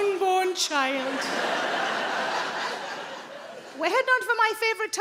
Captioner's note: audience laughing